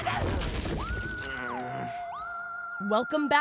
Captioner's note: Sokka groaning